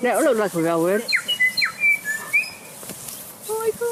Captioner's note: bellbird call